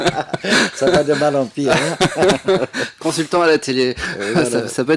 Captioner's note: laughs